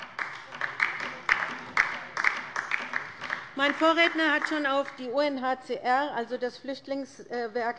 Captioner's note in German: Beifall bei der LINKEN